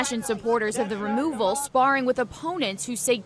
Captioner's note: shouting